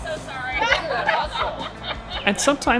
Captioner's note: assorted laughter